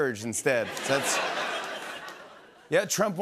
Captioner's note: laughter